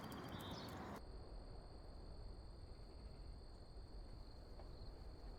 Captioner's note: crickets chirping